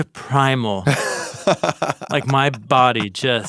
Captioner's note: chuckles